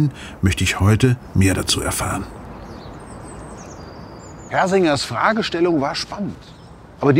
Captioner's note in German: Vogelgezwitscher